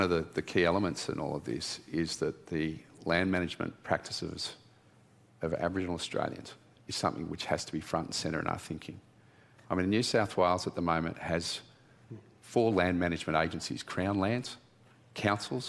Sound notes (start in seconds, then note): none